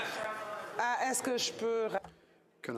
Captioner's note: speaking french